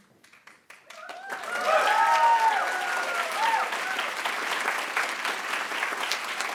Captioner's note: attendees cheering and applauding